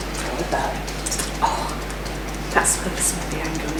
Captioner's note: tapping